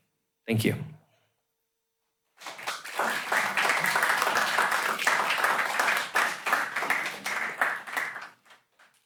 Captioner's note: applause